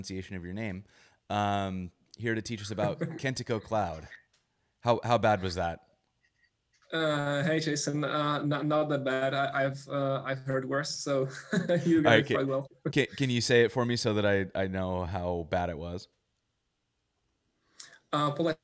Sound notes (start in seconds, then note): 1.0 laughs; 10.8 laughs